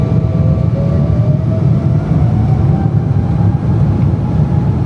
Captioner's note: engine rumbling continues